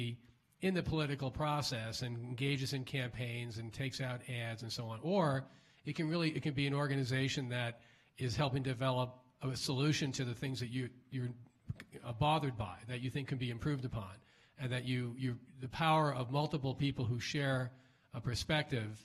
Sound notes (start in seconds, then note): none